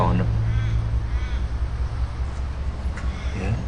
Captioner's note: bird squawking